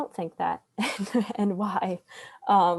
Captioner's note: laughs